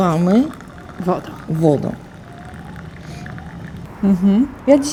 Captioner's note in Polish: szum wody